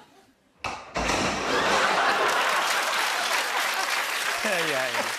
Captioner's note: laughter; laughter and applause